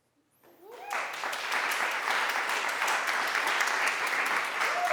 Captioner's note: applause